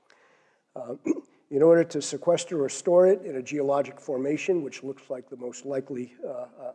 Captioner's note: cough